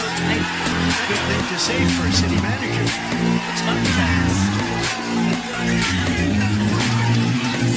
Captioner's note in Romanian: Aplauze